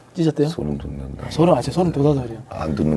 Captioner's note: haha